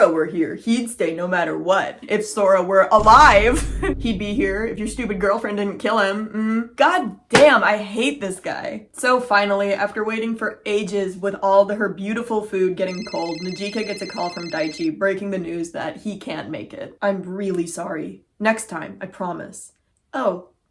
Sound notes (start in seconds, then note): 6.3 snarky noise; 12.8 phone ringing